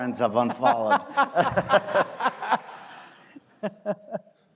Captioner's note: audience laughing